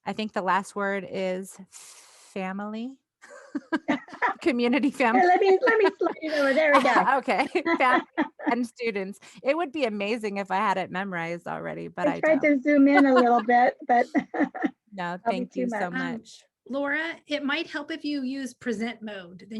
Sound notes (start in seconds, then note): 5.0 laughing